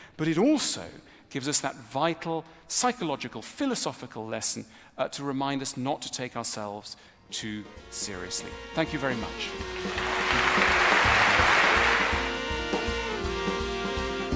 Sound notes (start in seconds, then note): 9.6 تصفيق